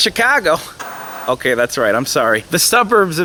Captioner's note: TV Static